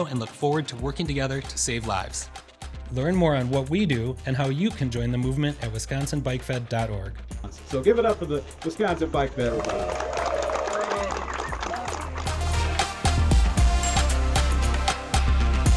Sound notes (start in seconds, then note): 9.3 audience cheers and applauds; 13.0 upbeat music